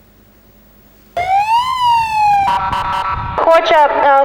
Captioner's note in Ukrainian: звук сирени